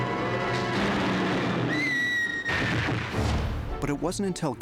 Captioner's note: screams